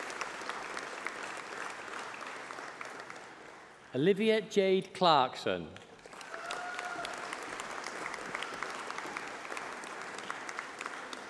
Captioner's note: applause